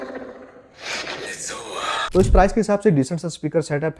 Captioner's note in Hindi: नाक से की जाने वाली आवाज़